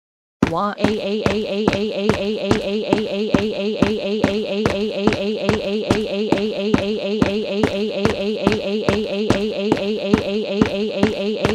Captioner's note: crying